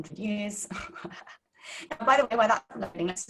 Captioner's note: laughing